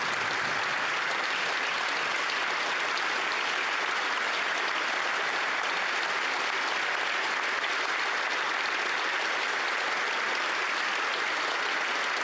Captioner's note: applause